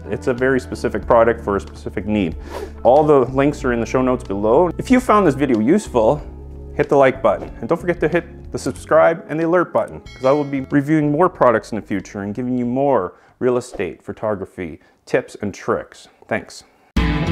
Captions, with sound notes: it's a very specific product for a specific need. (note swooshes) All the links are in the show notes below. If you found this video useful, hit the like button. And don't forget to hit the subscribe and the alert button. (bell dings) 'Cause I will be reviewing more products in the future and giving you more real estate photography tips and tricks. Thanks.